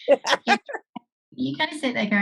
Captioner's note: laughs